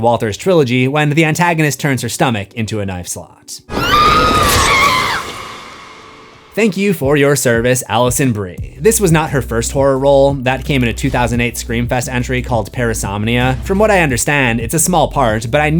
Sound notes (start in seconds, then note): 3.7 screams